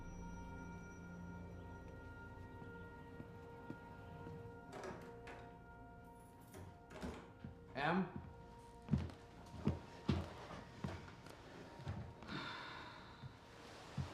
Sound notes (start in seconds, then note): 3.5 door opens, keys jingle, door closes; 12.2 sighs